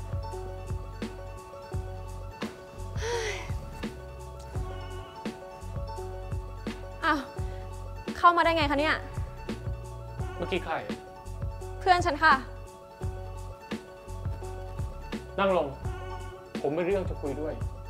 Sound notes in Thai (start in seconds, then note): 2.9 ถอนหายใจ